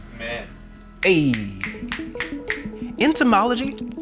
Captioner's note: snapping fingers